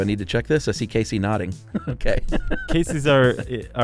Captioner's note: laughs